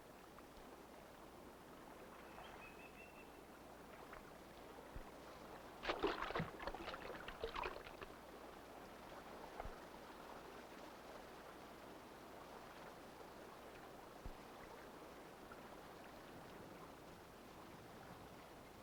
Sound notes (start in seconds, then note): 2.4 osprey softly chirping; 5.8 water splashing